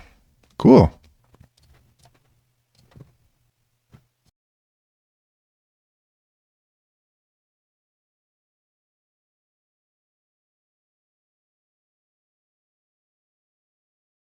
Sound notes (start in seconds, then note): 4.2 silence